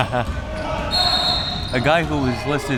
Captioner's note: whistle blowing